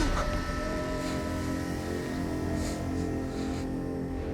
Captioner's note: gasps